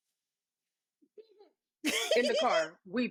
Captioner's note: laughing